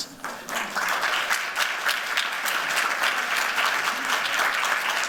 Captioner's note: applause